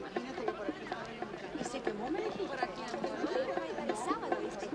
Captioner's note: crowd chattering indistinctly